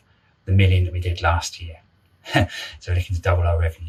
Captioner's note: laughing